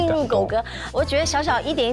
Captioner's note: explains in panic